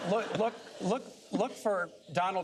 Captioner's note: laughter